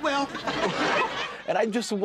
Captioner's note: laughter